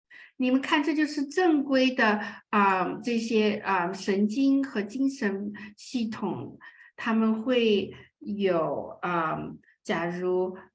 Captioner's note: speaking chinese